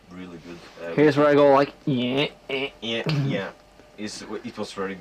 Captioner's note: imitates guitar